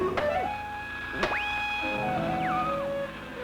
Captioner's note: mysterious music; whistling